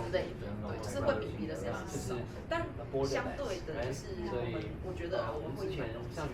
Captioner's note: speaking in foreign language